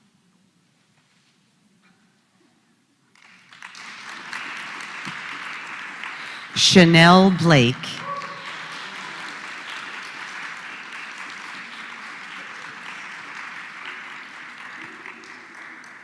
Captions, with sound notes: [APPLAUSE] >> Chanelle Blake. >> [APPLAUSE]